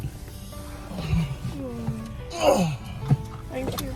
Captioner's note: grunting